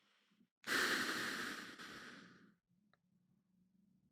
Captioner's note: Lex sighs